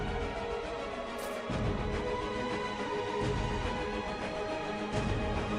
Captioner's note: sword swishing; upbeat inspirational music continues